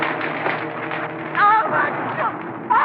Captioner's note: screaming